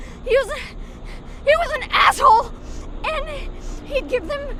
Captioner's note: panting